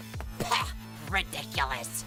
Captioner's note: spit